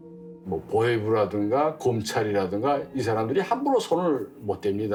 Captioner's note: speaking Korean